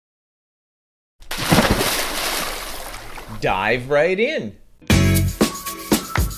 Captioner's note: water splashes; upbeat funky music